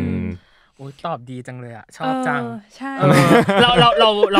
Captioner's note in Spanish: risas